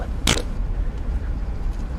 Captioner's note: fart